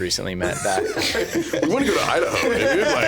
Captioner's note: laughing